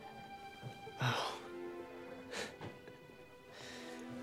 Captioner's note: scoffs